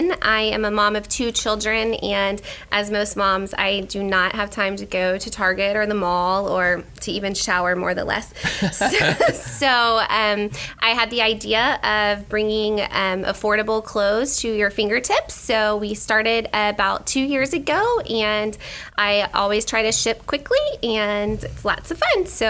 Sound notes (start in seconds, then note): 8.4 laughing